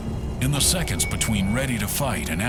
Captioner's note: voiceover